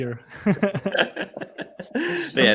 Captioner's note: all laughing